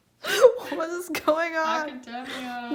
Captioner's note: laughing